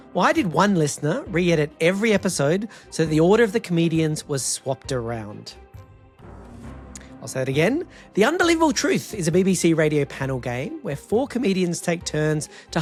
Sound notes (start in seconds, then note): none